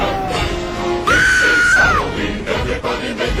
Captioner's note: woman screams